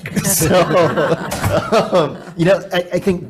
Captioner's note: people laughing